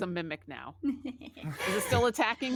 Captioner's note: laughs